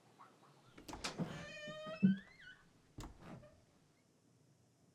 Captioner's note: door creaking